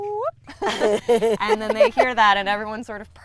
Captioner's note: women laugh